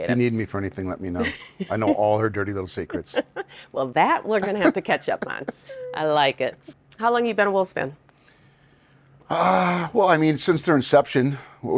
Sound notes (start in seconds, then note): 4.4 Josh chuckles; 4.4 chuckles